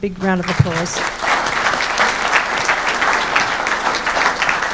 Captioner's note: audience clapping